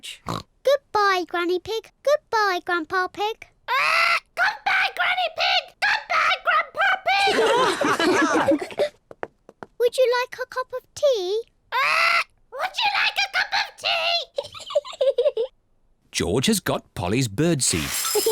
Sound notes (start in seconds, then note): 7.2 all laugh; 14.3 giggles; 18.1 giggles